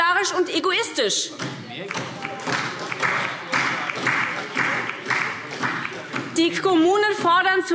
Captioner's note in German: Beifall SPD und vereinzelt DIE LINKE